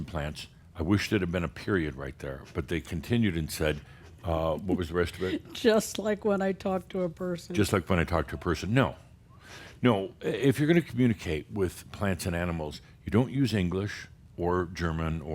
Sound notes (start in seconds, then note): 4.4 softly chuckling